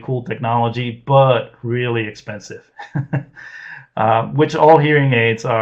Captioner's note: laughs